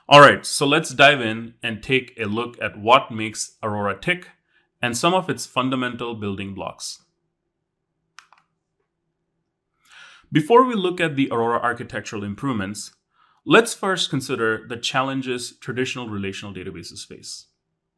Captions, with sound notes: All right, so let's dive in and take a look at what makes Aurora tick and some of its fundamental building blocks. (remote clicking) Before we look at the Aurora architectural improvements, let's first consider the challenges traditional relational databases face.